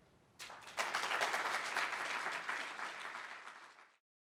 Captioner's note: applause